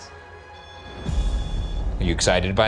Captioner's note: REM Pod beeping